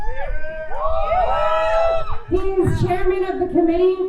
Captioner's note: crowd cheers